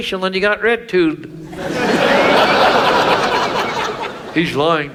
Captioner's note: audience laughs